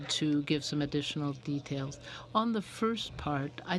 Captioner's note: speaking in french